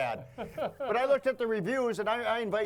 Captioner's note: laughs